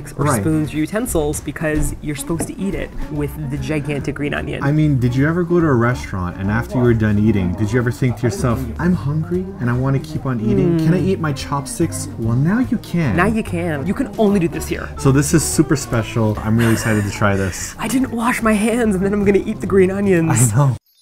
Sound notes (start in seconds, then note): 16.5 laughs